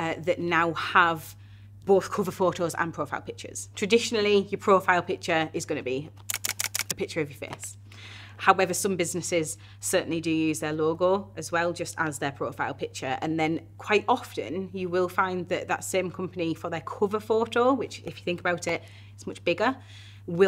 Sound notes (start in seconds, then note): 6.2 camera snapping